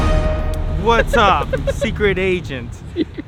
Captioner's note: laughing